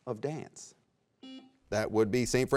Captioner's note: buzzer beeps